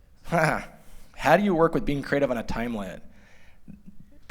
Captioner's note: laughter